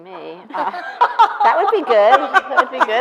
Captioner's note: laughing